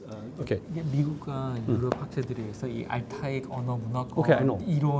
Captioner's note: speaking in Korean